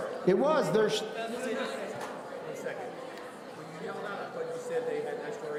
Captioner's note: people conversing loudly